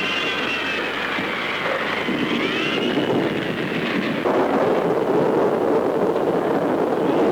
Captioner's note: wind howling; thunder